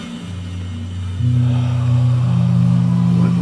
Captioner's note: breath